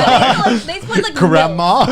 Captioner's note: laughing